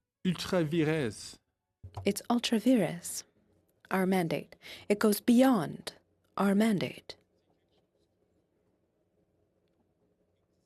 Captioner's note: speaking French